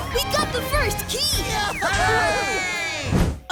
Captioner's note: cheering